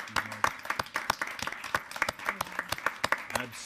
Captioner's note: applauding